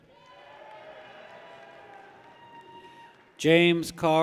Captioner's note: people cheer